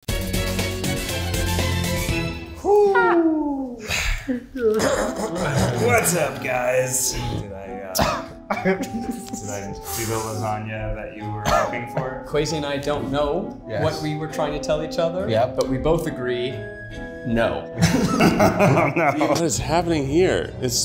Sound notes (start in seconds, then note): 0.1 bright music; 4.7 clearing throat; 7.9 coughing; 17.8 laughing